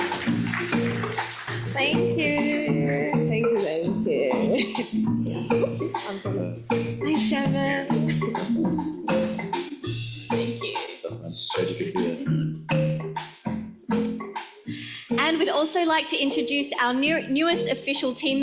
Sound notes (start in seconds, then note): 0.0 audience applauds